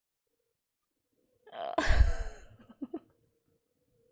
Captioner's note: laughs